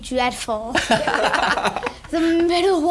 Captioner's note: laughing